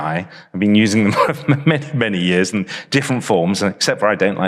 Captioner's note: chuckles